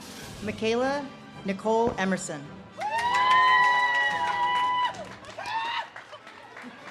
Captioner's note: audience cheers and claps